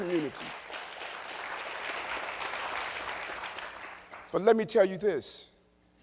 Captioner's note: applause